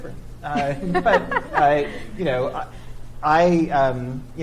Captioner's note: laughs